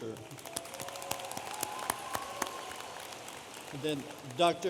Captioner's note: audience applauding